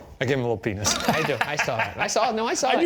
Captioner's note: laughing